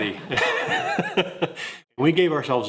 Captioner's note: laugh